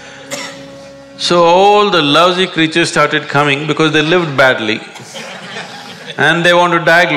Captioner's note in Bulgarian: смях